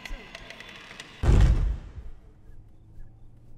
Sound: door creaks and slams shut

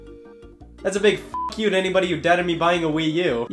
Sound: beep

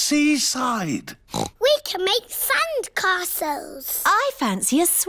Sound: oinks

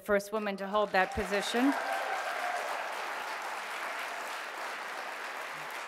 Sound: audience applauding

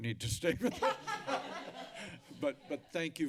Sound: audience laughing

